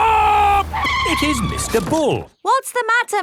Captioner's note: tires screeching